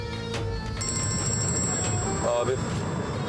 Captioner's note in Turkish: Telefon çalıyor